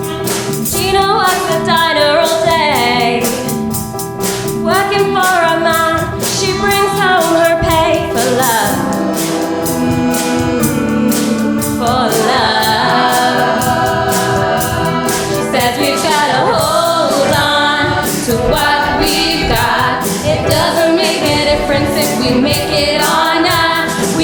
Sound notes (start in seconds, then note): 10.9 oooh